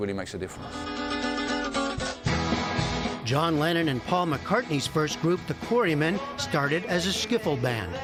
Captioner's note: voice-over